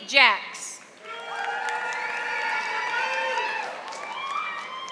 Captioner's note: audience applauding